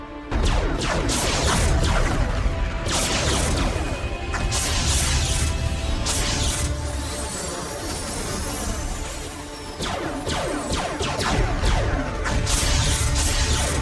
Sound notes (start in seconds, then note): 0.3 explosions booming; 0.3 cannons blasting; 6.9 spacecrafts whooshing; 9.8 cannons blasting